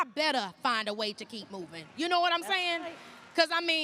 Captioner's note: applause